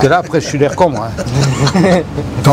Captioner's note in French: rires